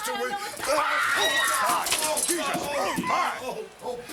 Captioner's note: Elizabeth screaming